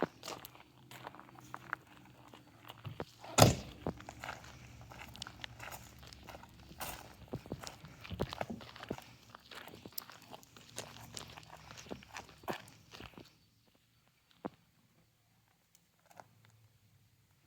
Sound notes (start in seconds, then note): 3.3 door banging; 5.6 footsteps crunching